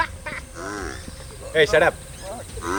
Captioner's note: mooing continues